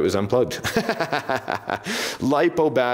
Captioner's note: laughs